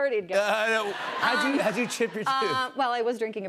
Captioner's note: laughter